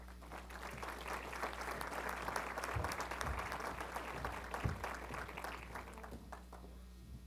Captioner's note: applause